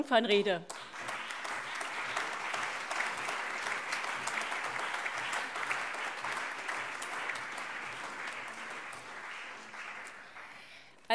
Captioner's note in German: Allgemeiner Beifall